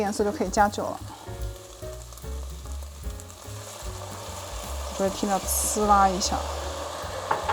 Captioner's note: amazing sizzling